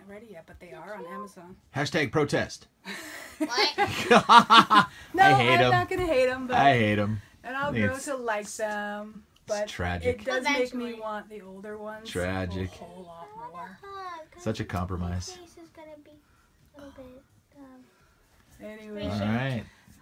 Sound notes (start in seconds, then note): 3.2 laughing; 13.6 in baby voice; 16.7 in baby voice